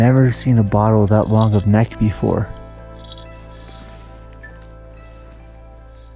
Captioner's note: glass clinking